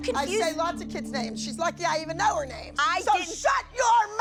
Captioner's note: shouting